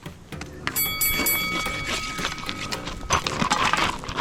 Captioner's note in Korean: 쓱싹 쓱싹